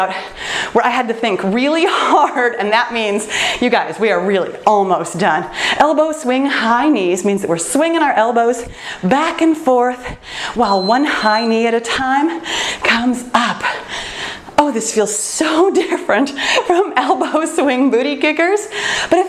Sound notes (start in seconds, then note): 13.2 timer beeps